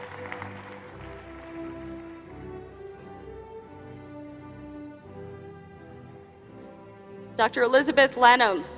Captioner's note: applause